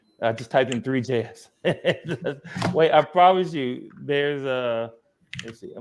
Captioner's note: laughs